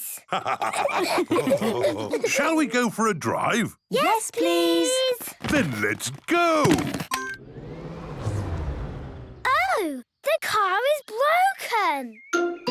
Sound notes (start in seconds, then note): 0.3 all laughing; 7.1 car chimes; 7.3 whirring, whirring stops